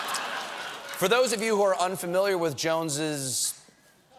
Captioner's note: laughter